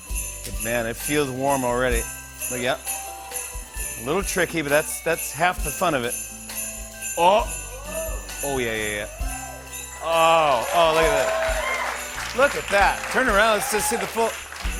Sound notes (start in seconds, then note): 9.3 cheers and applause